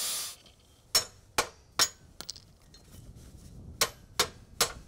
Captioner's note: metal clunking